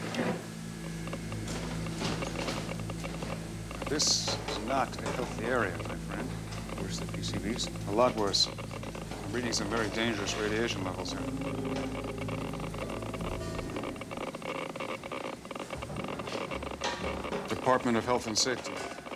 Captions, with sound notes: ( clicking ) This is not a healthy area, my friend. Worse than PCBs? A lot worse. I'm reading some very dangerous radiation levels here. ( machine clicking ) Department of Health and Safety.